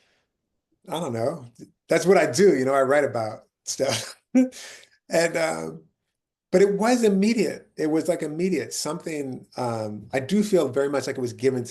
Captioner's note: laughing